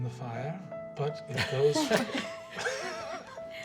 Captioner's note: laughing